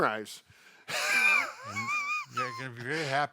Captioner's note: both laughing